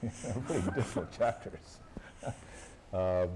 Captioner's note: laughter